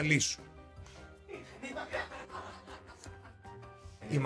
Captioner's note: laughs